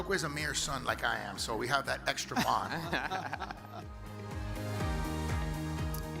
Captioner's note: chuckle